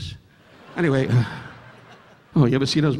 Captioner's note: audience laughing